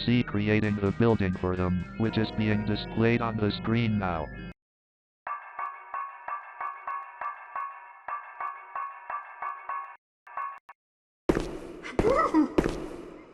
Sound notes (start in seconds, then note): 5.3 sound of hammer against metal; 12.0 man whimpers in fear